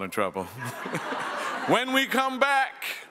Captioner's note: some audience members chuckle